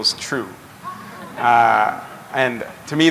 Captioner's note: chuckle